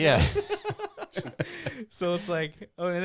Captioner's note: laughing